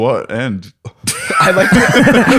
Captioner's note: laughter